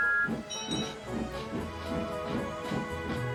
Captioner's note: whistles